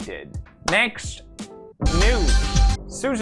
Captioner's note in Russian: хлоп